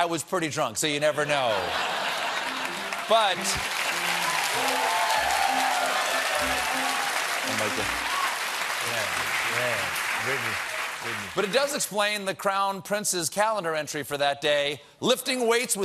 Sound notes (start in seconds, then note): 1.4 cheers; 2.2 applause